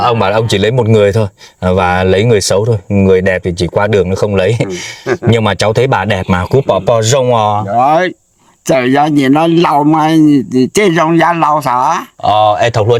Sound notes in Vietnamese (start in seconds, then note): 4.6 tiếng cười